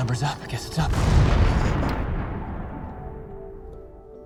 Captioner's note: bomb explodes